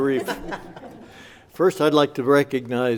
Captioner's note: laughing